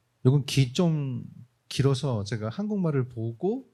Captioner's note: speaking korean